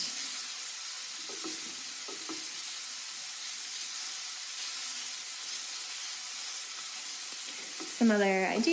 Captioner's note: sizzling